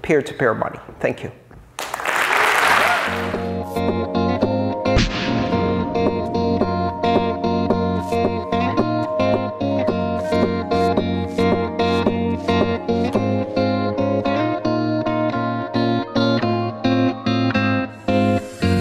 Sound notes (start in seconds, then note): 1.8 applause